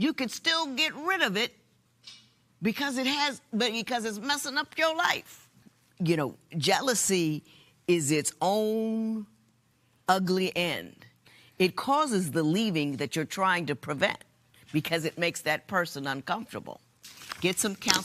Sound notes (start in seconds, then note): none